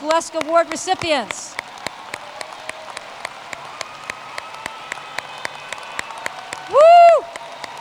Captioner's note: applause